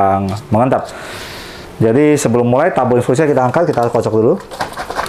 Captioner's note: inhale